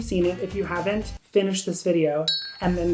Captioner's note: bell dings